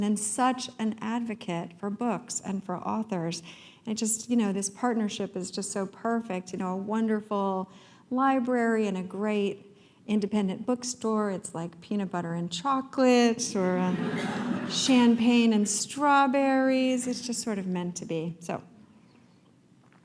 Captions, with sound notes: And such an advocate for books and for authors. I just, you know, this partnership is just so perfect and wonderful library and a great independent bookstore. It's like peanut butter and chocolate. [laughter] Champagne and strawberries. It's just sort of meant to be. So.